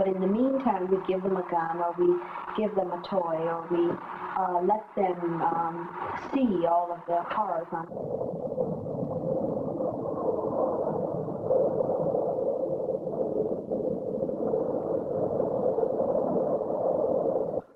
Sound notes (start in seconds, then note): 6.4 wind sounds